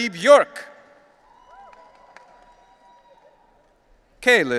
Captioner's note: audience cheering